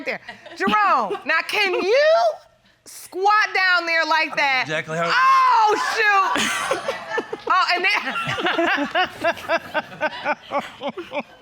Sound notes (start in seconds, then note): 5.6 laughs; 7.8 audience laughs